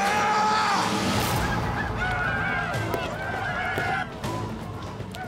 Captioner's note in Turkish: Bağırma sesi; Bağırma sesleri; Ayak sesleri